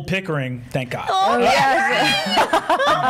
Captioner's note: shrieking